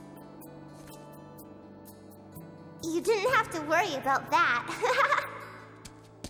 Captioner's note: giggles